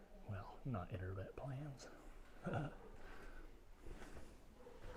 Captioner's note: chuckles